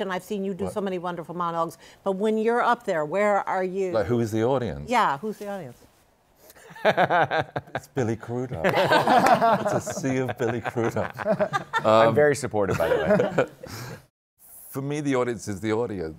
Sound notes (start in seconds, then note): 7.0 laughs; 8.5 laughter